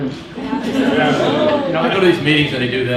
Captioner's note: audience laughs